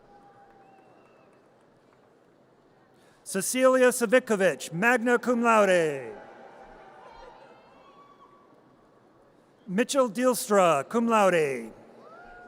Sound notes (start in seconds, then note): 0.0 audience cheers; 5.3 audience cheers; 12.2 audience cheers